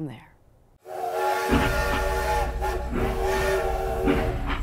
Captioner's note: train whistle blowing